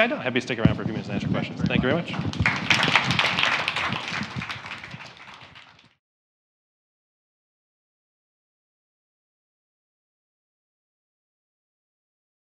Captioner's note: applause